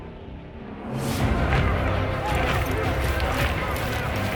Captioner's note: distant commotion